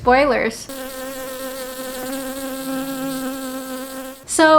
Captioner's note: bee buzzing sounds